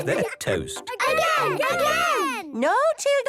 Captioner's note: children calling out